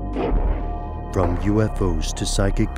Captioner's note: voiceover